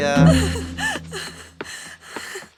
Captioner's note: Louise cries out loud